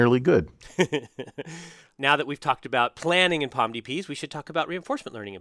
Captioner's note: laugh